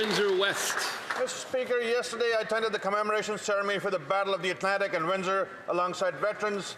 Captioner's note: applause